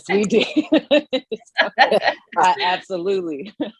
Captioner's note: all laughing